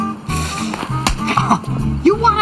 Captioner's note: smacks